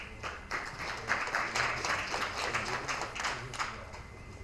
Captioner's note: attendees applauding